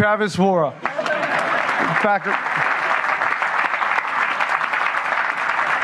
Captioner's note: applause